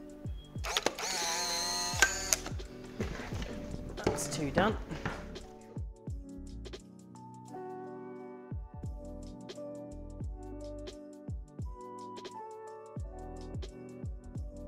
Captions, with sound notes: (camera grinding) That's two done. (soft music continues)